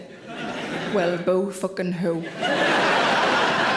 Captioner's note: audience laughing